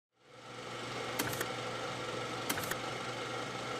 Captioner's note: engine clicks